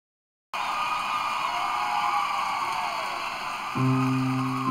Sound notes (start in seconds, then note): 0.5 applause